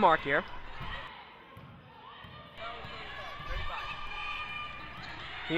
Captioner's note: crowd talking and yelling